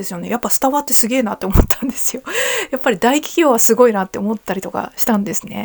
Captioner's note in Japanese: 笑い